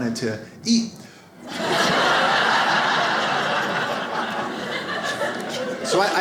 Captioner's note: audience laughs